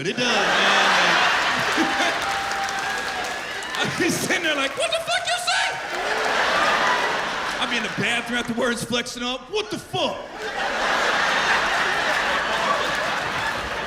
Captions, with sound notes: It makes me feel good. It does, man. [chuckles] I'll be sitting there like, "What the fuck you say?" I'll be in the bathroom afterwards flexing up. -"What the fuck!" -[laughter]